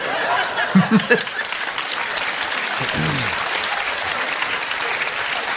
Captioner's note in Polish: Aplauz